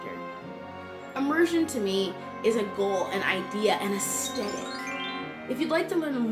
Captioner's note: magic twinkle sound